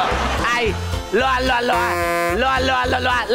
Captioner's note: making sounds of a speaker